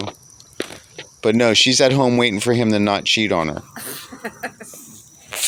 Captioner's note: laughs